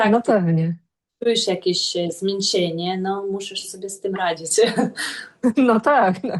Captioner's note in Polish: śmiech